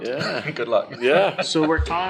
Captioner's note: laughs